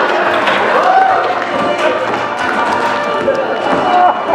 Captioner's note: laughter